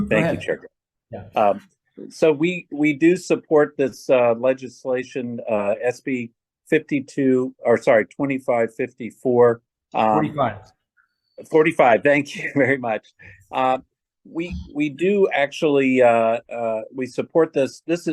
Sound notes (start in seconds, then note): 12.3 laughs